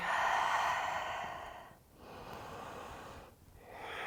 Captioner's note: deep breathing